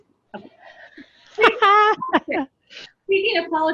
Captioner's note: laughter